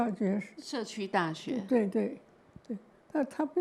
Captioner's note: Mandarin